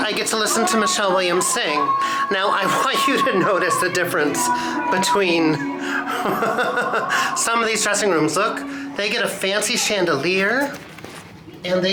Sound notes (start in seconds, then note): 5.6 chuckles